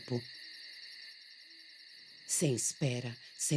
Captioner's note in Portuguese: cricrilar de grilos continua